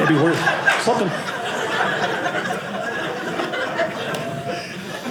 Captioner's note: audience laughing